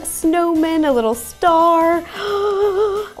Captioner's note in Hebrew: השתנקות